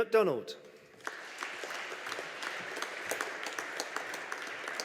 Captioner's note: audience applauding